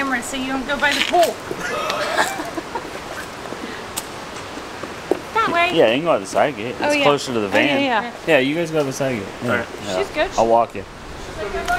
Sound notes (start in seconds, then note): 1.6 laughter